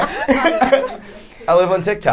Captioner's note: laughing